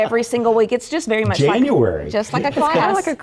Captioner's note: laugh